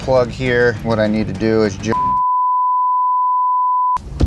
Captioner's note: beep